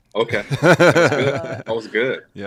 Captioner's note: laughs